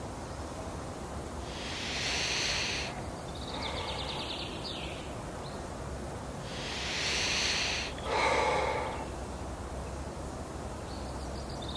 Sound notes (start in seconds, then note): 1.4 birds chirping; 1.7 runner sighing